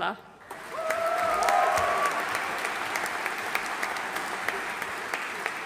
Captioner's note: audience cheering and applauding